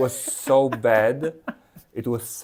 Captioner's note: laughs